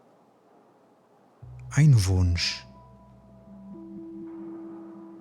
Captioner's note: german